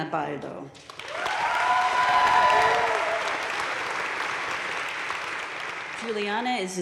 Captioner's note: crowd cheering and applauding